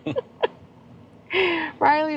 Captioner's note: laughing